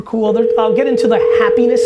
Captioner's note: phone ringing